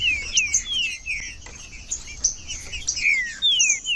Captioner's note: trinca ferro cantando